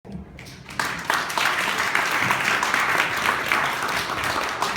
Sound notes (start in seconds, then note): 0.4 audience clapping